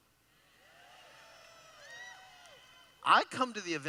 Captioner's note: cheering